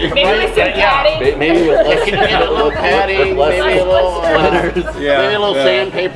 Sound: overlapping chatter

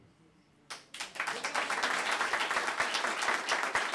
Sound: applause

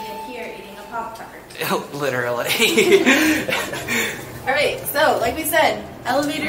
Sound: both laughing

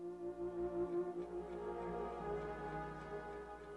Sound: clock ticking

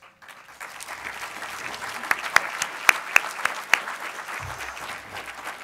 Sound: applause from audience

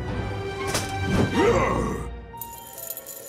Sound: growls

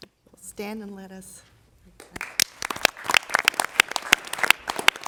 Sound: applause

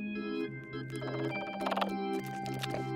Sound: chirping

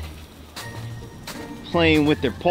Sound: footsteps crunching

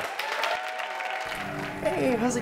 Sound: audience clapping

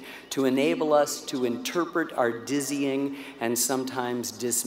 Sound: none

